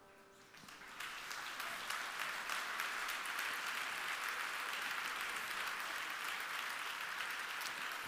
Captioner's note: applause